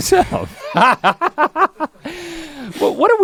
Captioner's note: Link laughs